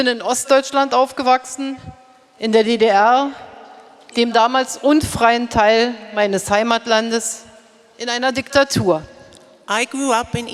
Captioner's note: speaking in German